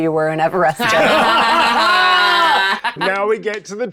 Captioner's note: laughing